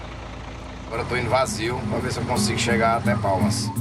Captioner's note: Portuguese spoken audio